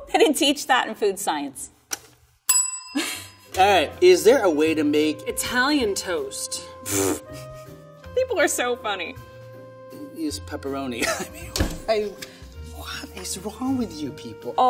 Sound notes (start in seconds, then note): 2.5 bell ringing; 11.0 laughs